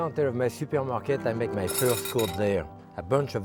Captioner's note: bowl clinking